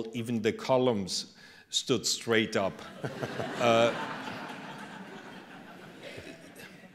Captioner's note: laughter